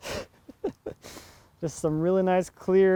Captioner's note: laughing